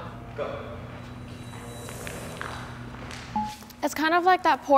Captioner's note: footsteps tapping